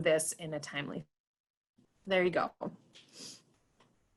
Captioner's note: audio cuts out